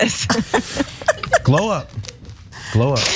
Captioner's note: laugh